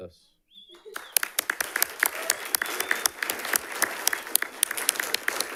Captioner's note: audience applauds